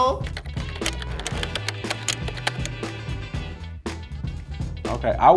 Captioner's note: upbeat music; typing